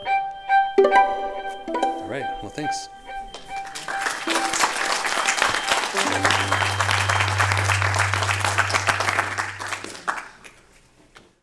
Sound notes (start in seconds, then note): 3.3 applause